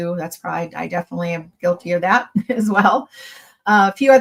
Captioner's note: chuckles